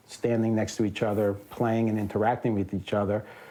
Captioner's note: none